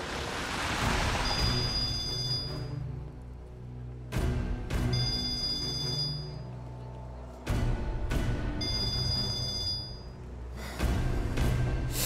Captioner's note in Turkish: Telefon çalıyor